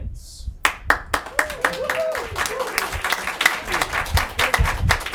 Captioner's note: clapping and cheering